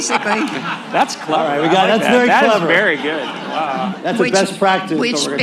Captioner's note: laughter